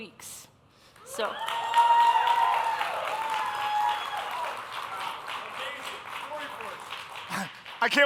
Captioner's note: applause, cheering